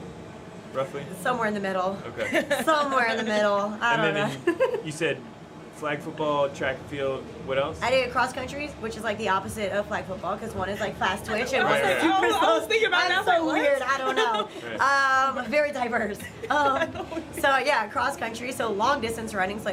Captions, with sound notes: - Somewhere in the middle. - (laughter) - Somewhere in the middle, I don't know. - You said, flag football, track and field, what else? - I did cross country, which is like the opposite of flag football, cause one is like fast... - Right, right. - I was thinkin about it, and I was like, "What?" - So weird, I don't know, very diverse. So, yeah, cross country, so long distance running,